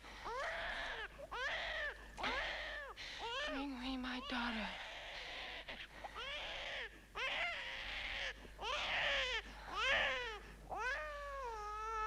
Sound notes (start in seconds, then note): none